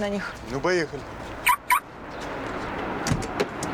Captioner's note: car alarm beeps